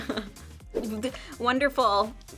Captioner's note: Toni laughs; graphics swoosh